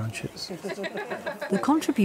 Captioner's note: woman laughing